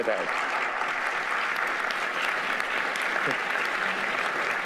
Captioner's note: audience applauding